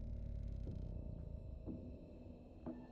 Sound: none

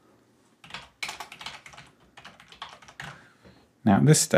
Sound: keyboard typing

